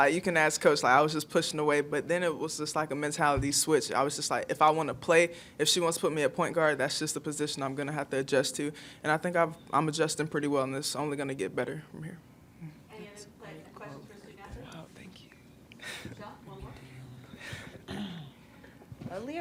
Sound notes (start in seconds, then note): 12.3 faintly speaking